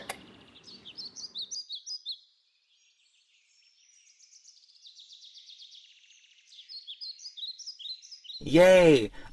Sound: birds

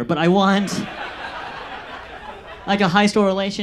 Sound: audience laughs

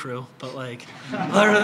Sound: laughter

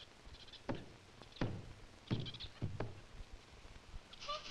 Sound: Ramona thumping

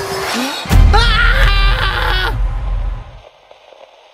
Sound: screaming

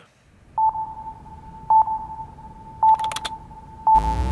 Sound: beeping

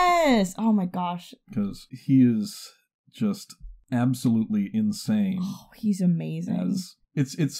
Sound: sighs

